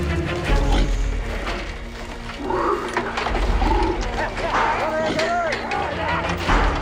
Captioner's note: metal cage clunking; Jerry growling